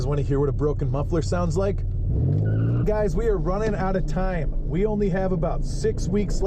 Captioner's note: screeching sound